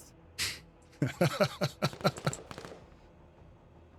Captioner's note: laughs